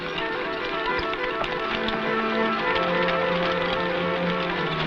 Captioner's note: horse hooves pattering